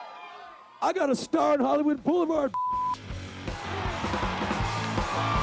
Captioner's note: audience cheering